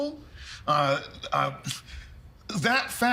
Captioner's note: stammering